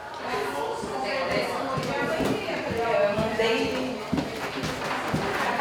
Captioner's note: steps in wood floor